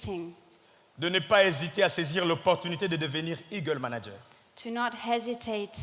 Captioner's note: speaking in French